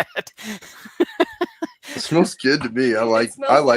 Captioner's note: laughs